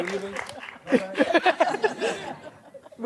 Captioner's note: all laugh